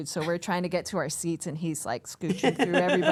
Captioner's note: center Person laughs